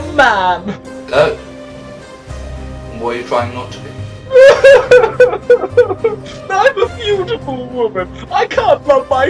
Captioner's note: sobs